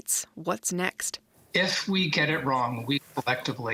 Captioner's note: speaking alternate language